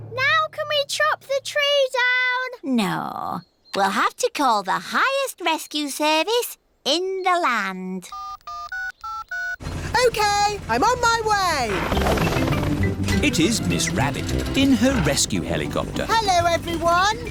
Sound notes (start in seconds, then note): 8.1 dialing